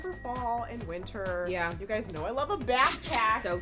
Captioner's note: cash register rings